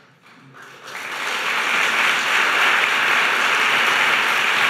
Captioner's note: audience applauding